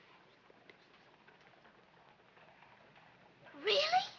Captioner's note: whispering